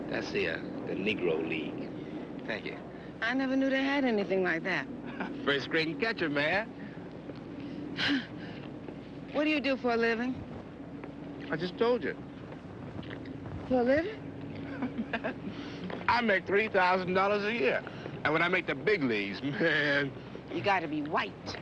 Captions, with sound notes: That's the Negro League. Thank you. - I never knew they had anything like that. - First-grade catcher, man! (sighing) - What do you do for a living? - I just told ya! - For a living? (Roy laughing) - I make $3,000 a year. And when I make the big leagues, man... - You gotta be white.